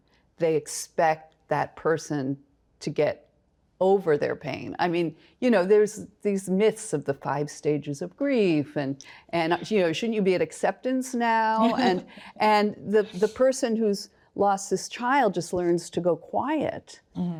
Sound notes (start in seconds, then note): 11.6 chuckles